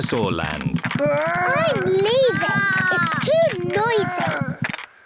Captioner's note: both roar